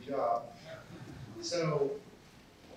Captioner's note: chuckle